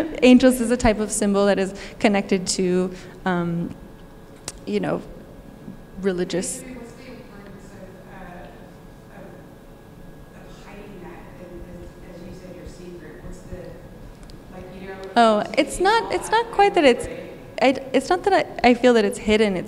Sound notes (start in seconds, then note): 14.0 speaking faintly